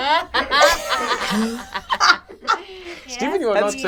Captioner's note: all laugh